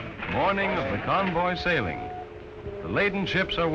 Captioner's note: voiceover